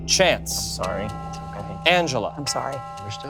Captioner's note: bell chiming